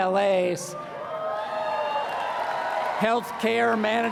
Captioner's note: applause